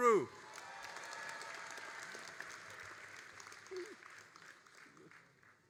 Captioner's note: all applauding and cheering